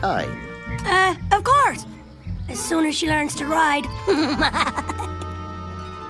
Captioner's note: snickers